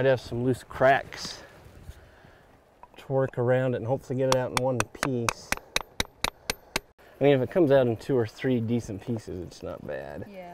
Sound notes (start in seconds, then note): 4.2 chiseling